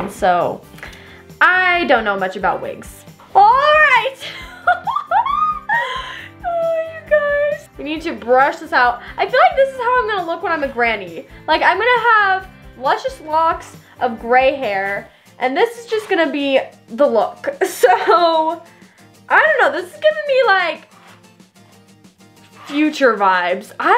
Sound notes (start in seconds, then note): 4.2 laughing